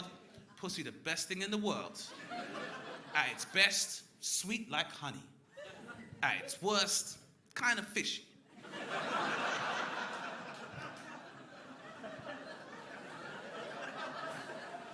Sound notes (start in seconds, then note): 8.5 crowd laughing